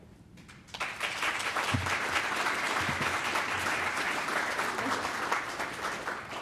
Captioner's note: applause